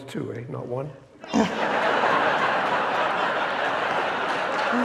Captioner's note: audience laughing